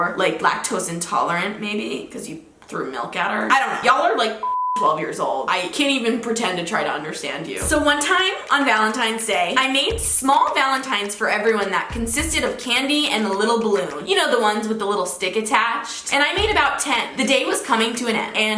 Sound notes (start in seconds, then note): 4.4 beep